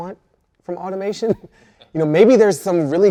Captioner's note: laughs